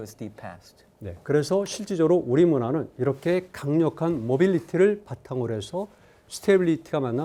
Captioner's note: speaking in Korean